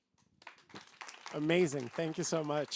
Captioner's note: applause